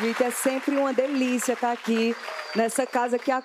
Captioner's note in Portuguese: aplausos